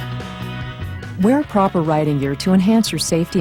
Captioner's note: voiceover